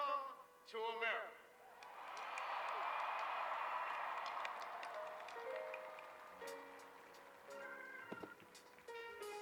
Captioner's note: cheers